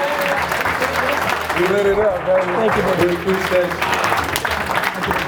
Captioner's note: audience applauding